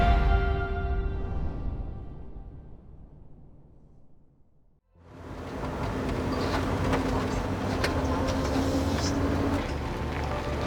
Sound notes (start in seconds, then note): 4.9 engine rumbling